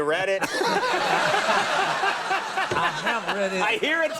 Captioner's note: laughing